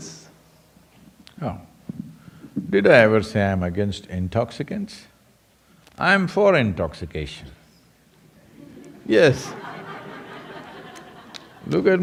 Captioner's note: laughter